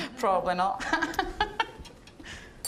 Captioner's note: laughing